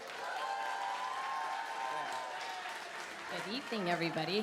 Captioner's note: cheering, applause